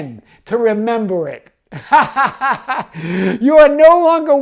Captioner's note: laughs